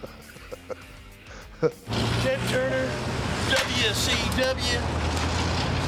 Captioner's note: laugh